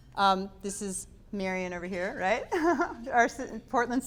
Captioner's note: giggling